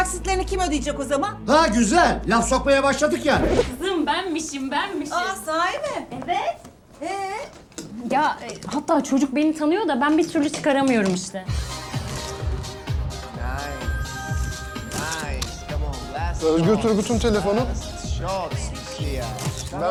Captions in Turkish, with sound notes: - Okul taksitlerini kim ödeyecek o zaman? - Ha güzel, laf sokmaya başladık yani! <- Kızım benmişim benmişim! - Aa, sahi mi? - Evet! - Eee? Yaa, hatta çocuk beni tanıyor da, ben bir türlü çıkaramıyorum işte. [TELEFON ÇALAR] - Özgür Turgut'un telefonu? - Özgür Bey'le görüşebilir miyim?